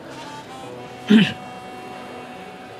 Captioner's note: clearing throat